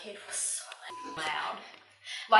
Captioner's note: beep